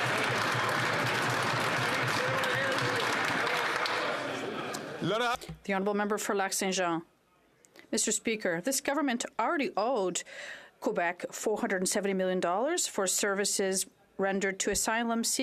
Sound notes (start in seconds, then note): 3.5 some Applause